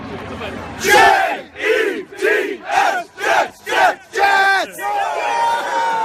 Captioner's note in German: Jeder unisono